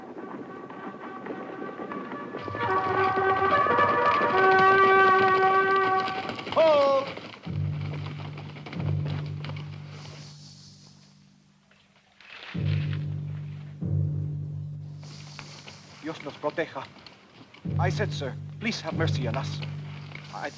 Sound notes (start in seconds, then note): 0.2 rousing horn melody; 7.6 suspenseful music; 16.1 Ramirez speaks Spanish